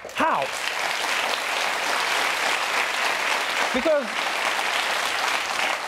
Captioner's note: audience applauding